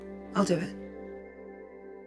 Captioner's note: voiceover